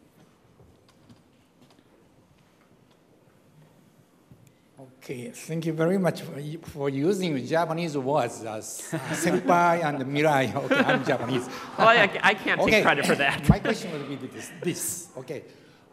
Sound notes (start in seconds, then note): 10.4 laughter